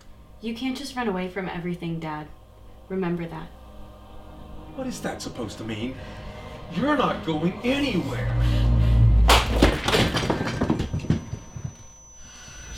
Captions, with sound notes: You can’t just run away from everything, dad. Remember that. What is that supposed to mean? You’re not going anywhere! (plate smashing) (ear ringing)